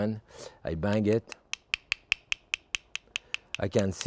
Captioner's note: mussel tapping